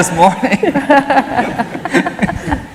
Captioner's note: laughter